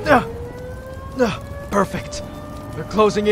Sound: grunt

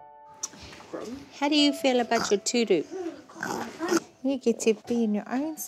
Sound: snorts

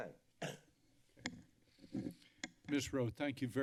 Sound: clears throat

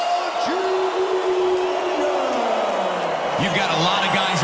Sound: crowd cheers raucously

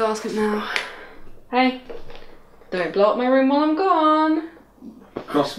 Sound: sing-song

